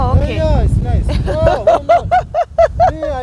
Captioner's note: laughing